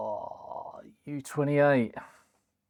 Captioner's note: groaning